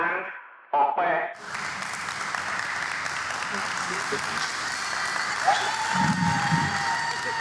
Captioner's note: cheers